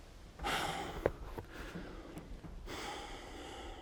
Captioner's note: Ron sighing